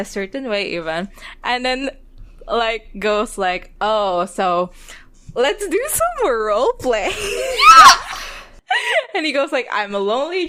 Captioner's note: laughing; screams